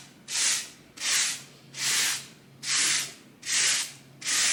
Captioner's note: grout float scrapes on tiles